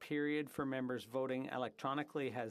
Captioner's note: speaking French